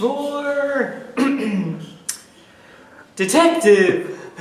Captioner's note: clears throat